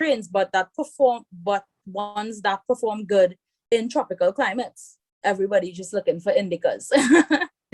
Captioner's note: rires